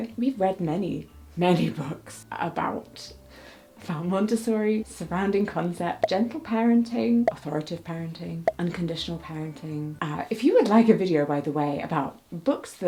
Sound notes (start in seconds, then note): none